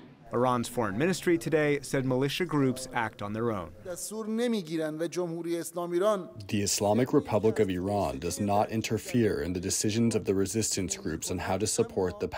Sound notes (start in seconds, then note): 6.2 through translator